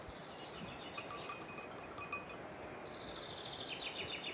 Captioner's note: bells